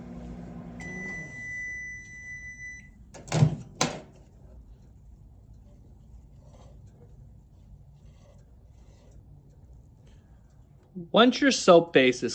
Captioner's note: microwave beeps